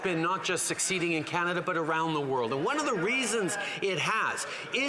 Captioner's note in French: voix de l'interprète